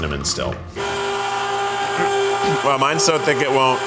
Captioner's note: machines whirring